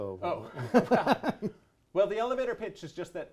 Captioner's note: both laughing